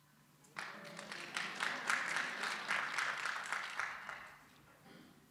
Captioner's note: audience applauds